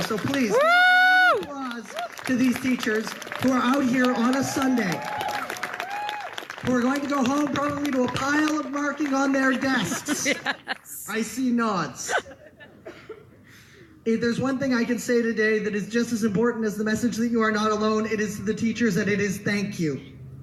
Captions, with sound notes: *Speaking over cheering* So please, give a round of applause to to these teachers who are out here on a Sunday *Speaking over cheering* Who are going to go home, probably to a pile of marking on their desks *audience laughs and agrees* I see nods If there's one thing I can say today that is just as important as the message that you are not alone it is to the teachers and it is "thank you."